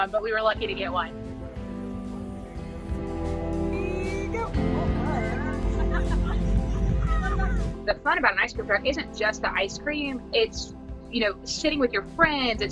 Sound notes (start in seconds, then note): 1.4 inspirational music; 6.0 all laughing